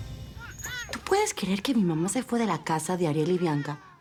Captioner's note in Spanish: Llanto del bebé